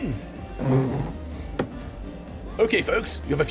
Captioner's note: chair skidding